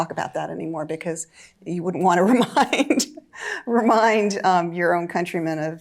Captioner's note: laughing